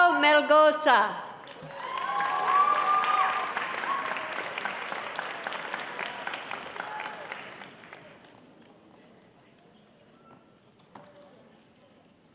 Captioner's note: applause